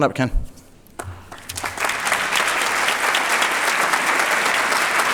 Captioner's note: applause